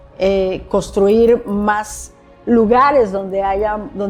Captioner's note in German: Spanisch sprechen